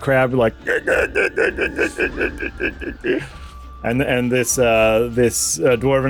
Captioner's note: noises like no crab you’ve ever heard